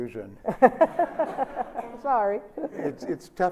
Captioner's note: Sonia laughs